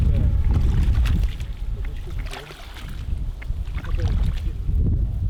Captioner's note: footsteps splashing